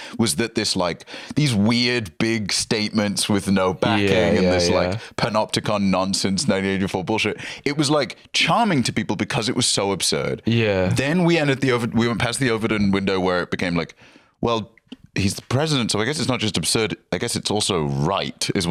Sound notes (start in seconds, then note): none